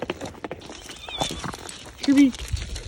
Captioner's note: dog clomping; dogs groaning